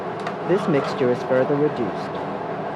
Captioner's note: voiceover